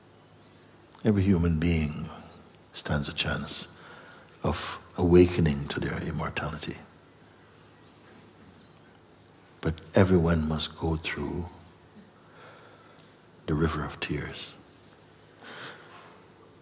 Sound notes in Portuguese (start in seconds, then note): none